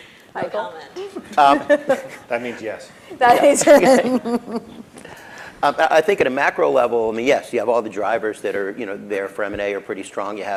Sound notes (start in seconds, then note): 3.2 laughs